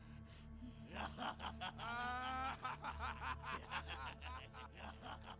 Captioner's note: laughing maniacally